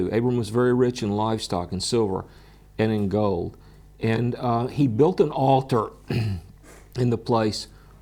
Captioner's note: clears throat